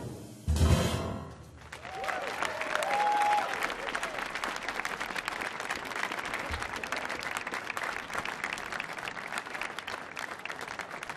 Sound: cheers and applause

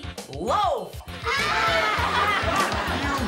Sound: all laughing

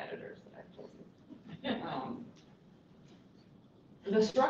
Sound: laughter

